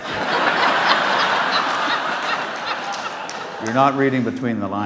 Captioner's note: audience laughs